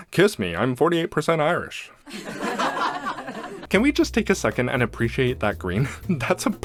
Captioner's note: sitcom laughter